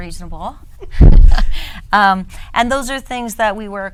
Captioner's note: woman laughs